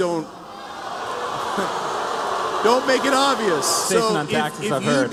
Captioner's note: crowd booing